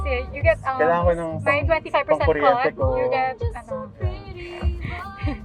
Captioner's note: laughs